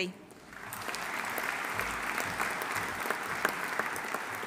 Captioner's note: audience applauding